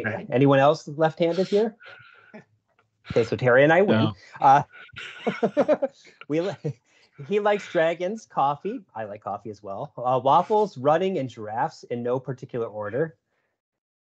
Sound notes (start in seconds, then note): 4.9 laughter